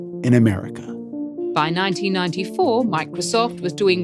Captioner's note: soundbite of archived recording